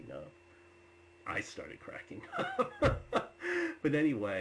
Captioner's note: laughs